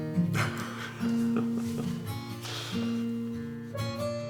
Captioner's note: chuckles